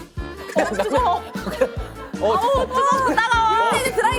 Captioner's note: laughs